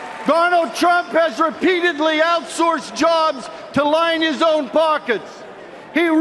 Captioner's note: cheers and applause